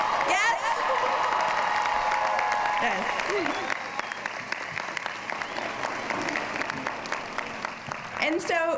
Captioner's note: applause